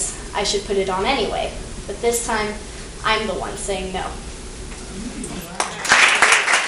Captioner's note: clapping